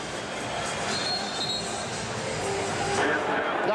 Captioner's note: whistle blows